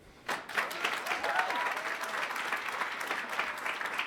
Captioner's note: attendees cheering